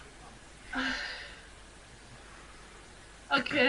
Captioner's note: sighs